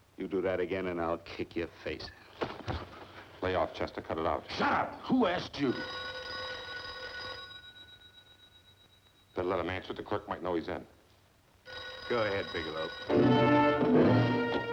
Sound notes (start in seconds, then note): 6.5 telephone ringing